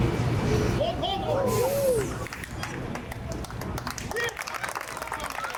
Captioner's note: onlookers clapping and cheering